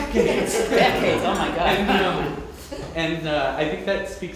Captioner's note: group laughing